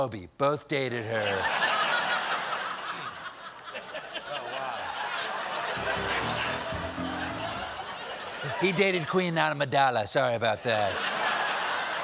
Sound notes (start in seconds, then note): 5.1 laughter; 5.7 piano riff